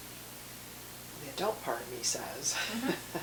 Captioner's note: laughing